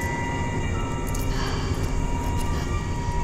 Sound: sighs

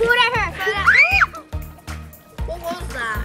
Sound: screams

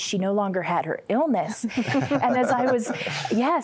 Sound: laughter

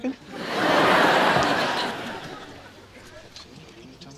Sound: audience laughing

